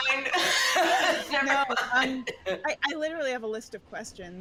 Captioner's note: laughs